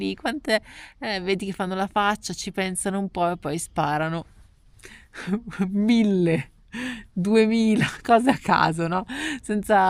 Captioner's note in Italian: risate